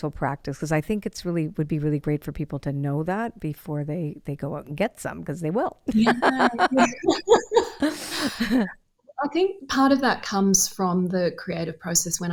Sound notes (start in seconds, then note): 5.9 both laughing